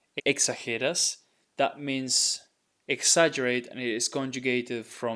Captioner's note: speaking in Spanish